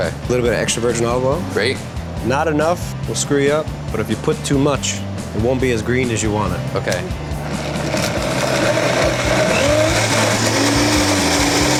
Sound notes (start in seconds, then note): 7.4 blender grinding